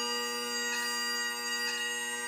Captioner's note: none